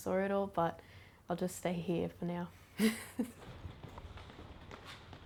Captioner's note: laughs